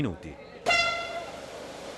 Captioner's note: horn